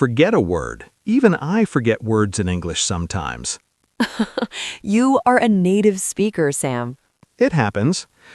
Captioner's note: laughs